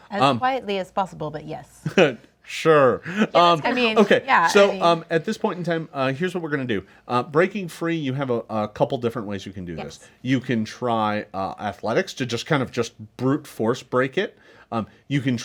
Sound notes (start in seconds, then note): 2.3 scoffs